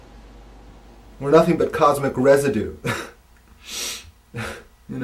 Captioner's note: chuckles